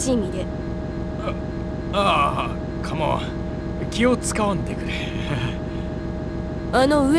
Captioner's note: awkward laugh